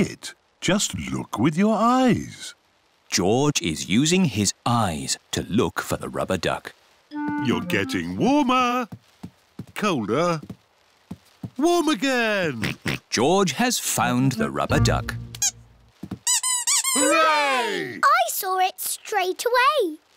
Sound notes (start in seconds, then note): 12.3 oinks; 16.2 duck squeaks